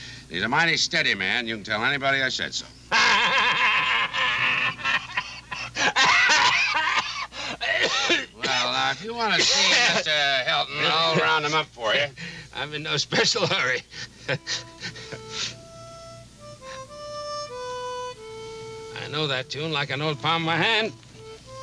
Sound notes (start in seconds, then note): 2.9 Homer laughing; 7.4 Homer coughing; 15.3 light harmonic music